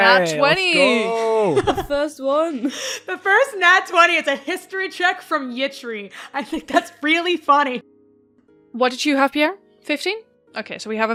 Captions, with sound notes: I got a nat 20! Nat 20! Eey, let's go! The first one! (Laughs) The first nat 20 is a History check from Yitri! I think that's really funny. What did you have, Pierre? 15? Ok, so we